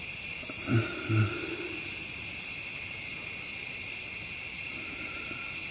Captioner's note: breathing heavily